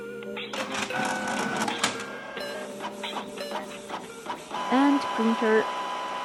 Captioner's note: printer struggles